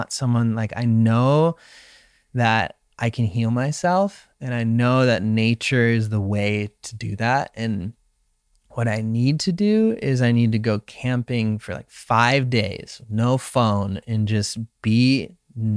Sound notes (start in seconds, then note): none